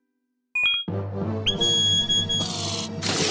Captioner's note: beeping